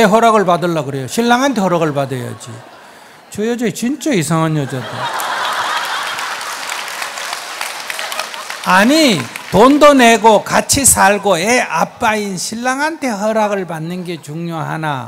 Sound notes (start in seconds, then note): 4.1 audience laughs/claps